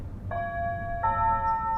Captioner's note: birds chirping